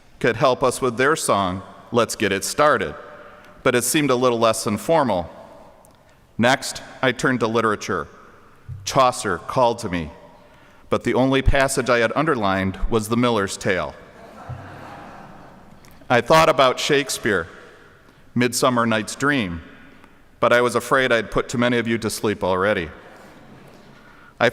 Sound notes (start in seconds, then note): 14.1 audience laughing